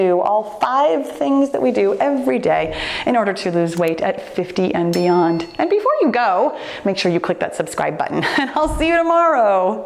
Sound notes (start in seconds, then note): 4.9 chimes